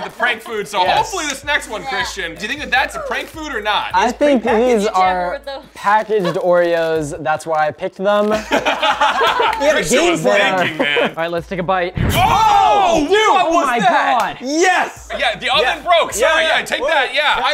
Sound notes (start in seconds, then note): 8.3 laughter; 11.9 explosion; 12.0 shocked screams